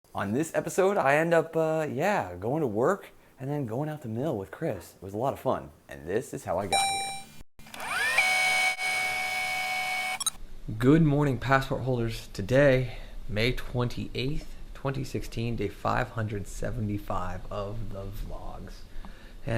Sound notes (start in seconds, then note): 6.7 robotic ding; 7.6 tape rewinding